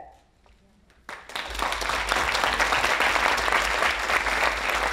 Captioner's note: audience applauding